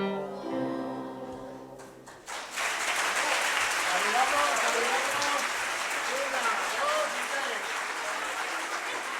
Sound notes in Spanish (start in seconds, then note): 1.8 Aplausos